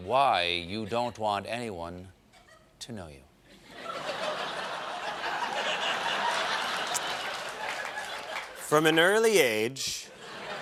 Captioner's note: laughter